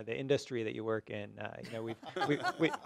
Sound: laughter

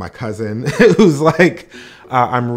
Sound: chuckles lightly

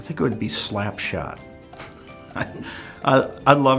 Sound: laughs

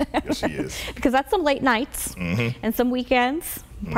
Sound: laughs

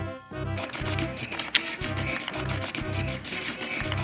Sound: comical music; marker squeaks

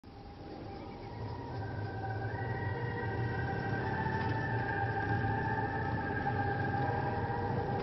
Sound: distant approaching motorcycles

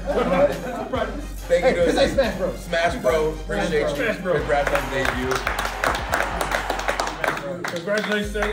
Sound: applause

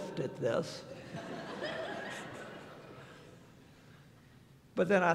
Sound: laughter

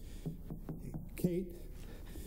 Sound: knocking on door

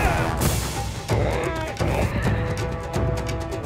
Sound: grunting; braying

